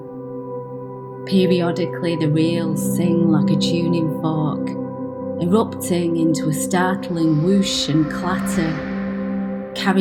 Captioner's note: whooshing train sound